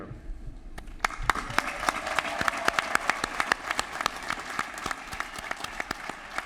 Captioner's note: applause